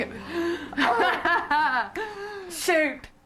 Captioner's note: laughs